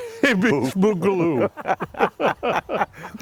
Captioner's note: laughter